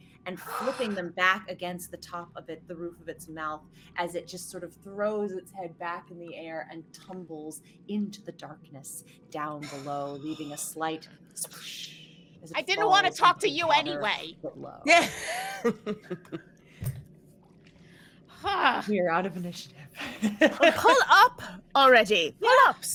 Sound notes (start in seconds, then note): 14.8 laughs